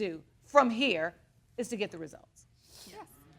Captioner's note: sniffles